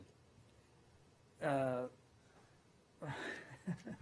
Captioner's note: laughter